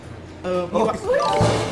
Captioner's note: Hahaha